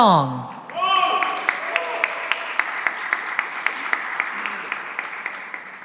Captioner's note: cheering and applause